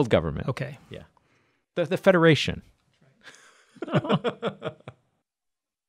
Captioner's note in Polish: śmiech